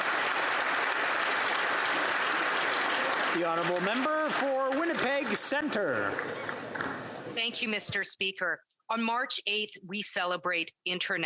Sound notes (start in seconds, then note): 0.0 applause